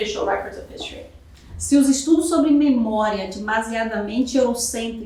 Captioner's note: speaking portuguese